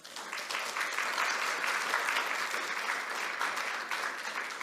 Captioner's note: applause